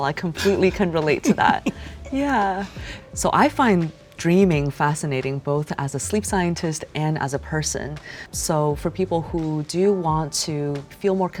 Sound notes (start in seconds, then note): 0.3 laughing